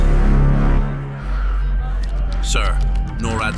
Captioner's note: panting